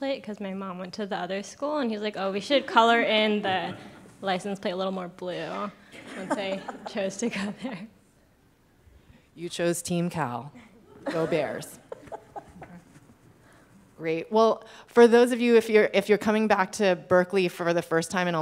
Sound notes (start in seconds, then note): 6.0 audience laughing; 10.6 laughing